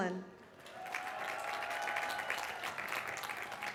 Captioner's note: applause